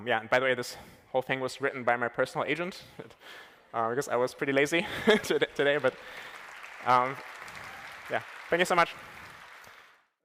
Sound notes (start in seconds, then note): 9.1 applause